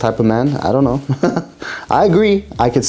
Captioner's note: laughter